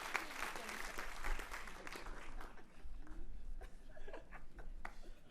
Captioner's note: cheering and applauding